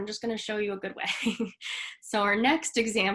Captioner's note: chuckles